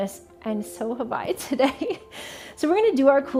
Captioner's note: chuckling